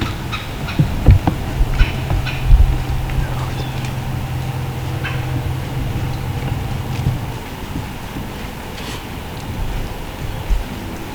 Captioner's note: forest sounds, light breeze